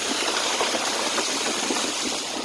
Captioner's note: car rushes through flooded road